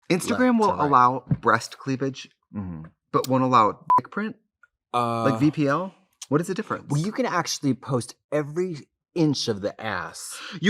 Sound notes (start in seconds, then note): 3.8 beep